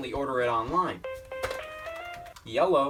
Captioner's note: phone ringing